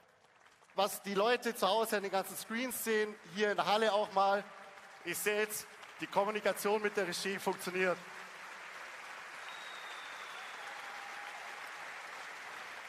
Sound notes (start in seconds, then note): 8.3 applause